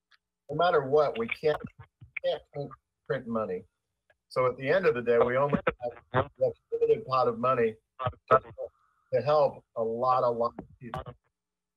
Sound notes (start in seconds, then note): 7.7 ~audio distortion~